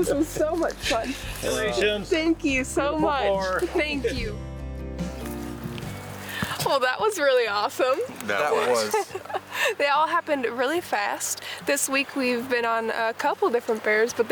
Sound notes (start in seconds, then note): 8.4 laughing